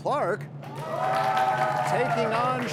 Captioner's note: cheers and applause